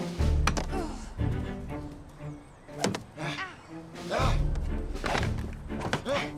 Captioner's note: boys grunting; swords thudding